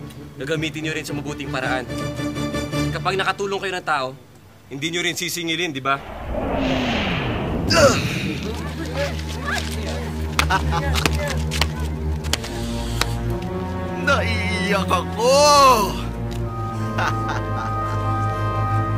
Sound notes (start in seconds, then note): 6.5 whirs; 7.6 crowd gasping; 12.0 laughs; 16.9 laughs